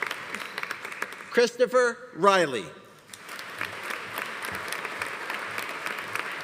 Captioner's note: audience applauding